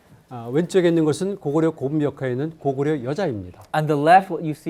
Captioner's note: speaking in Korean